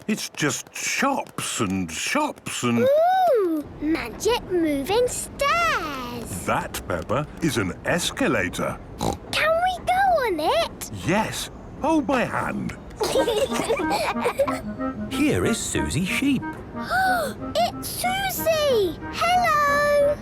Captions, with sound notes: It's just shops and shops and... - Ooh! Magic moving stairs! That, Peppa, is an escalator. Snort! - Can we go on it? - Yes. Hold my hand. - (children giggling) - Here is Suzy Sheep. - Ah! It's Suzy! Hello!!